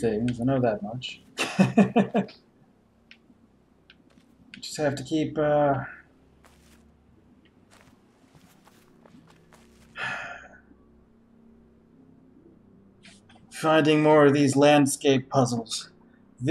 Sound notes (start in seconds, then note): 1.4 chuckles; 9.8 sighs